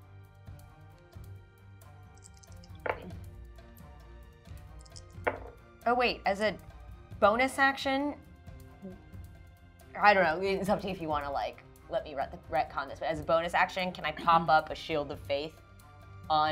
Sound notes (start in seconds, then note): 0.2 intense music; 3.0 dice thudding